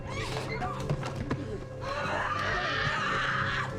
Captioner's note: screams